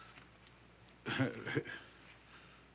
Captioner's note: chuckles